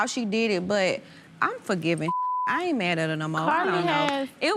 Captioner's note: beep